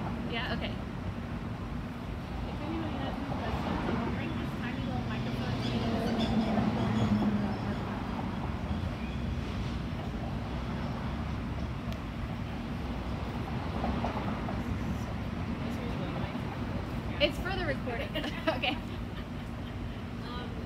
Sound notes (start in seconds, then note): 18.3 audience laughs